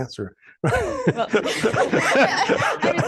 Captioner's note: laughter